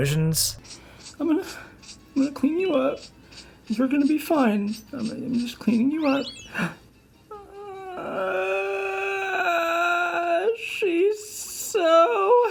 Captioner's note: gasp